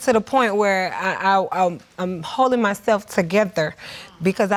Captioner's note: stammers